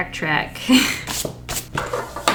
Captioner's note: laughs